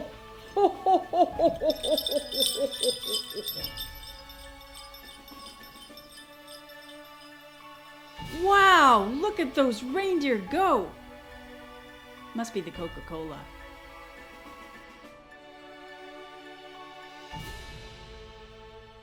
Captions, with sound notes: Ho ho ho ho ho ho (more sleigh bells jingling) Wow, look at those reindeer go! Must be the Coca Cola Christmas music